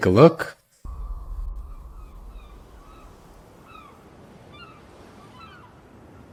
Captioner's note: birds Chirping